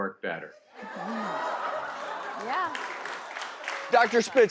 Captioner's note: audience laughs